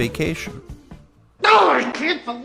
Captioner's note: shouts